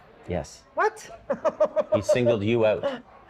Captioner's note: laughing